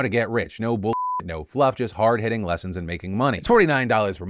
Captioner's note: beep